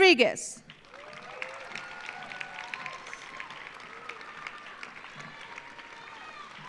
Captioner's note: audience applauding; audience cheering